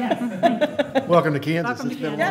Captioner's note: laughter